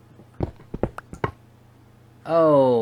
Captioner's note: blocks break